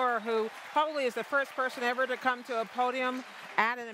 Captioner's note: cheers and applause